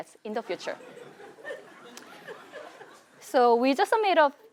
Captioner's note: laugh